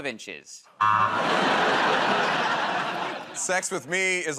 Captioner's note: laughter, buzzer